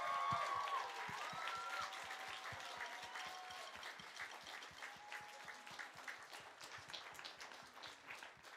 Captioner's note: applause